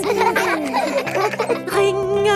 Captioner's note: giggling